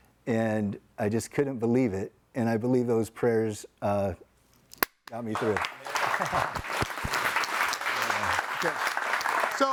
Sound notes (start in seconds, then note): 5.9 laughs; 6.8 audience applauding